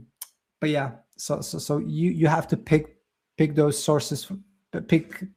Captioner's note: lips smack